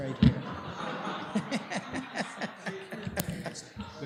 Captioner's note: laughter